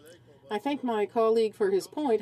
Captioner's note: speaking french